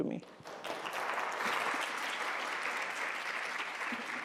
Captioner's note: clapping